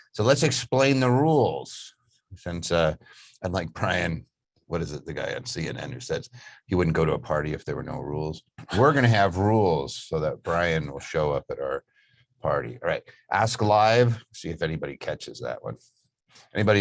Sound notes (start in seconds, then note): 8.6 laughs